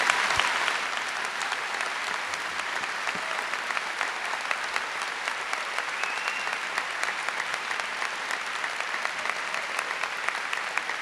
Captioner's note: applause